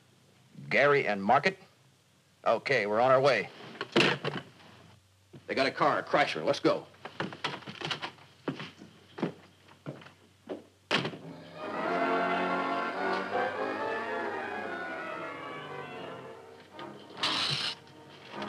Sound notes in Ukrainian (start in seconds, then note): 10.9 двері закриваються